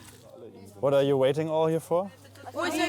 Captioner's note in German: englisch